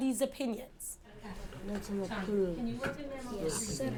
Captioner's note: students chatting quietly